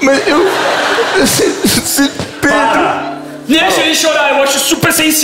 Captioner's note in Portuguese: choro